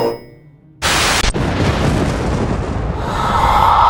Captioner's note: television static; thunder and lightning; spooky sounds